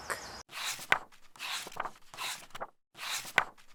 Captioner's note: pages turning